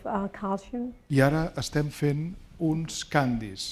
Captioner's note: speaking spanish